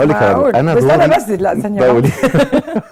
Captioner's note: laughs!